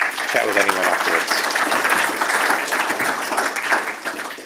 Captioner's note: applause